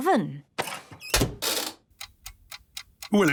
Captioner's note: dial cranking, oven ticking